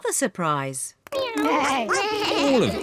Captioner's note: all making animal sounds